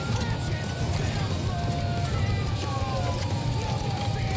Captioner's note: siren wailing